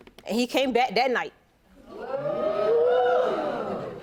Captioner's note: audience reacts